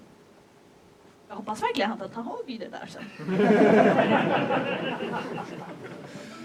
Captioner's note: laughter